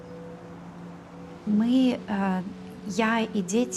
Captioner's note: woman speaking Russian